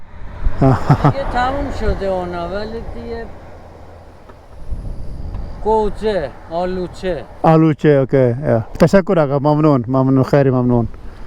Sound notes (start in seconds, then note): 1.2 speaking in Persian